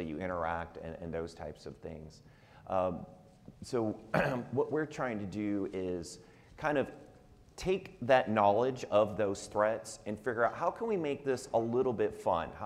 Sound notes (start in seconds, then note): 4.1 clears throat